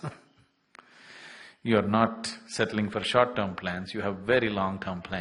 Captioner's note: laughs